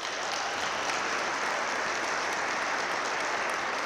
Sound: audience claps

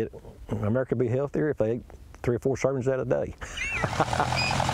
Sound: laughs

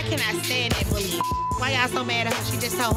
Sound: beep

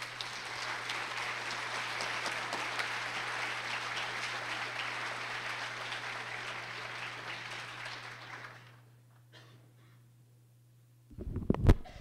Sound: clapping

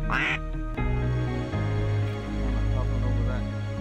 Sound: duck calls

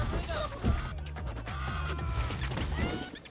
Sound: Spot yelling

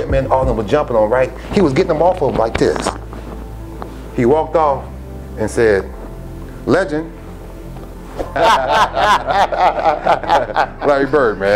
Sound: laughter

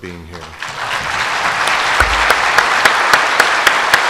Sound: audience applauds

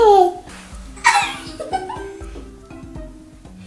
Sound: laughing

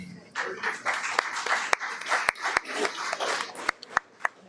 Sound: audience applauds

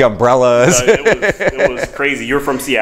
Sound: chuckles

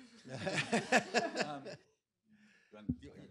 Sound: laughter

